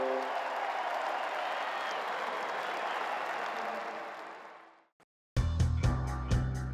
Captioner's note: crowd cheering